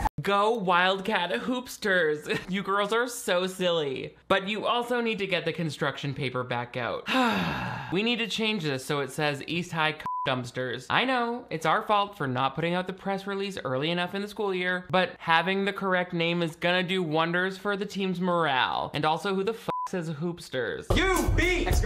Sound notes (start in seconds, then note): 7.0 sighs dramatically; 10.0 beep; 19.7 beep